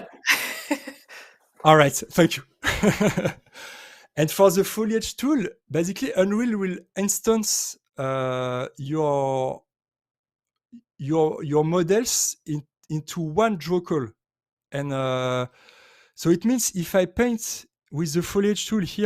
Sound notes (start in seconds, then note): 0.0 chuckles; 2.6 laughs